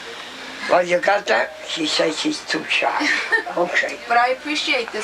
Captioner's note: woman laughs